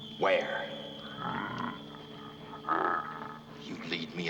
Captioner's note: growling